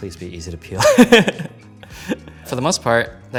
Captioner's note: chuckles